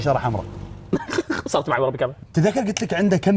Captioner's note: laughs